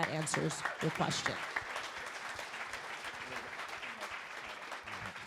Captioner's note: crowd applauding